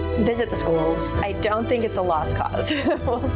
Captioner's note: chuckles